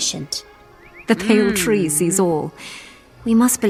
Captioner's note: laugh